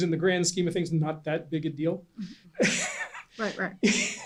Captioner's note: laughs